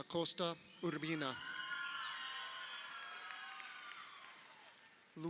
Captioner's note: crowd cheering